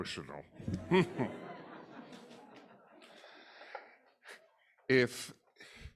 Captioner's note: audience laughing